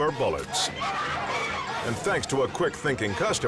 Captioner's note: woman screams